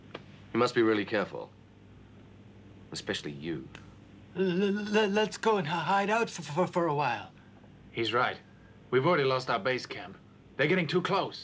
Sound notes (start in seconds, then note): 4.3 stuttering